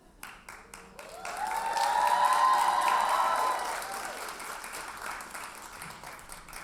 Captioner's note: audience cheers and applauds